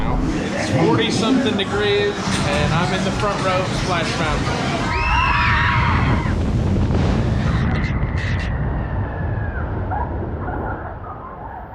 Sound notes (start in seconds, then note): 4.8 riders scream